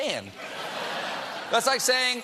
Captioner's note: laughter